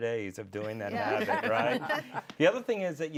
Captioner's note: laughter